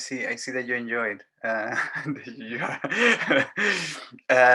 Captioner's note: giggles